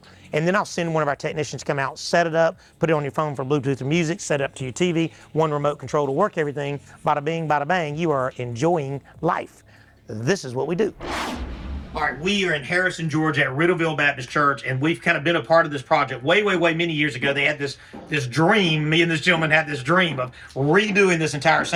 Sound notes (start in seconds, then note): 10.9 birds chirping